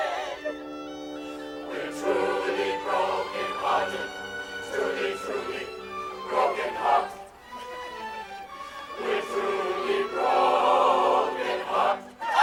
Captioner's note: laugher